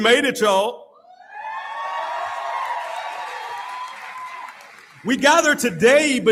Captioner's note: audience Cheering